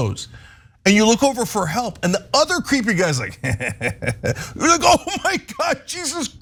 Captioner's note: laugh